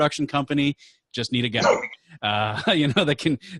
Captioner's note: laughing